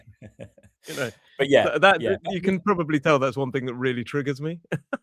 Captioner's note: laughter and snorts; laughter